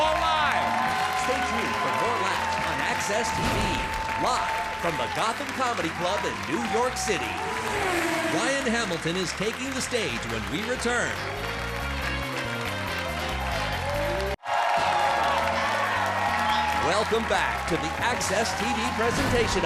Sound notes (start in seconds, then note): 11.9 upbeat music; 14.5 audience cheers; 14.8 upbeat music